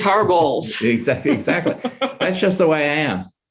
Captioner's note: chuckles